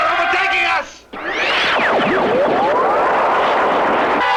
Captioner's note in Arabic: ضربات الليزر